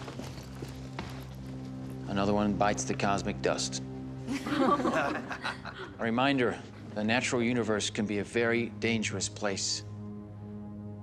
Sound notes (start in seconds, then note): 4.3 chuckle